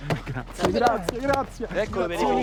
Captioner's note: back tapping